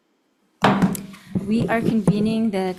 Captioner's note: gavel clanking